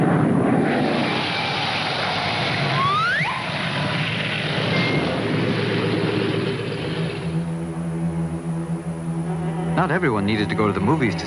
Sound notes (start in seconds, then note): 2.8 comical falling